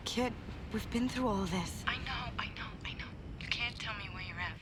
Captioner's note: none